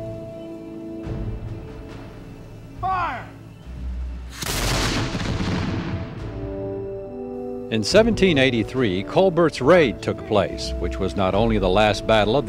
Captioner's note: shots fired